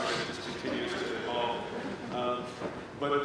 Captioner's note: laughter